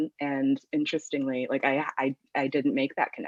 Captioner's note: none